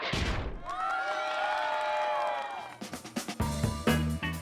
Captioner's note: people cheering